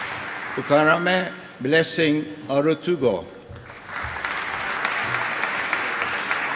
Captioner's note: applause